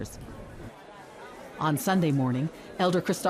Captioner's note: people chattering